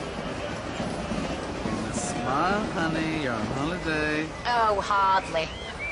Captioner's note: hubbub